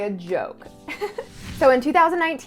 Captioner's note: giggles